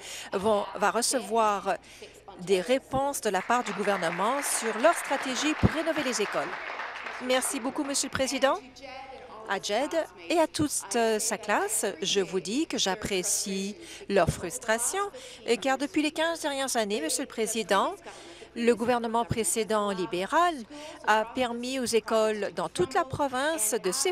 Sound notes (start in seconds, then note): 8.0 applause